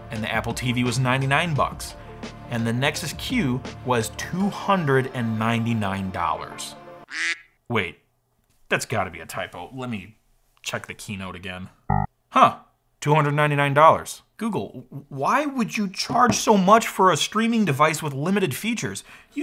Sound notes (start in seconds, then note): 7.1 duck quacks; 11.9 computer dings